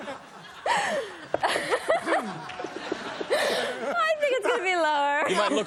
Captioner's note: laughter